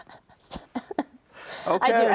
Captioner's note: chuckles